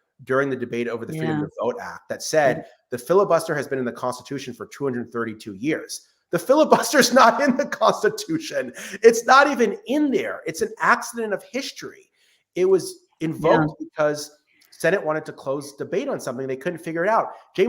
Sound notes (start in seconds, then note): 6.6 laughs